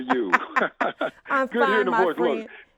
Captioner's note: laugh